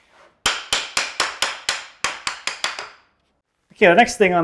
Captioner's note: wood clacking